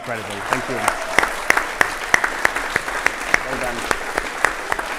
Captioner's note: audience applauding and cheering